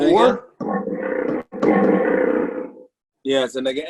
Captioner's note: animal growls